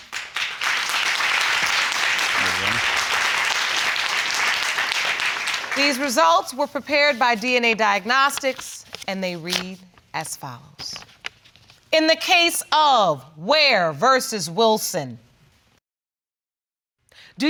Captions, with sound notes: (AUDIENCE APPLAUDING) These results were prepared by DNA Diagnostics. And they read, as follows. In the case of Weir v. Wilson.